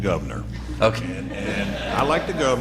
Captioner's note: laughter